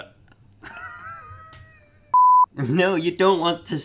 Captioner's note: laughter